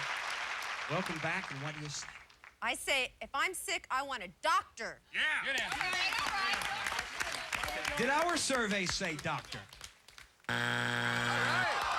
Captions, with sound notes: WELCOME BACK AND WHAT DO YOU SAY? I SAY, IF I'M SICK, I WANT A DOCTOR. [cheering] DID OUR SURVEY SAY DOCTOR? [buzzer]